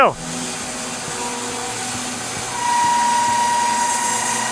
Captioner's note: slab master whirring